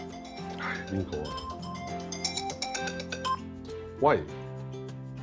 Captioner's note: phone ringing